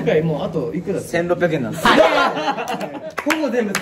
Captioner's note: laughs